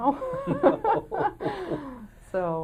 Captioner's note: chuckling